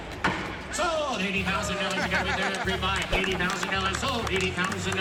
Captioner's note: auctioneer chant